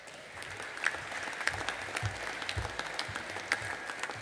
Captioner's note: audience applauding